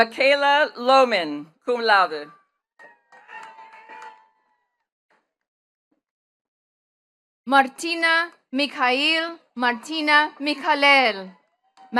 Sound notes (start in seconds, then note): 2.8 attendees cheering and clapping